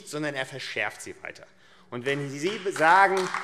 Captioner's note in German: Beifall AfD